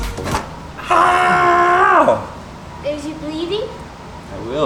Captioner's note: father screaming